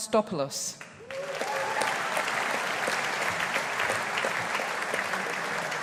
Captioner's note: audience applauding